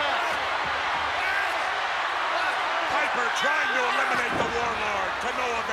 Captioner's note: applause